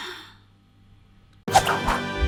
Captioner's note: breaths heavily; upbeat music